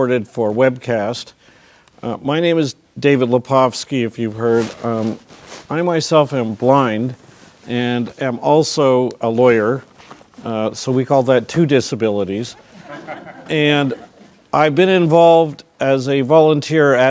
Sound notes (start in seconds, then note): 12.4 crowd laughing